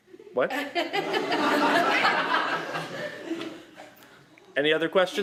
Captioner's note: laughter